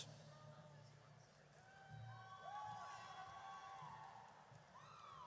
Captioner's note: audience cheers